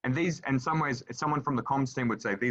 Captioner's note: none